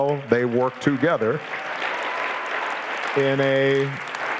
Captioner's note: audience applauding